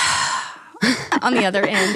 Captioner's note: sighs